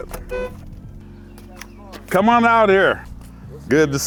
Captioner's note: car horn beeps